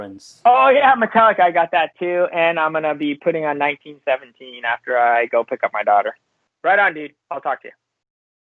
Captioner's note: laughs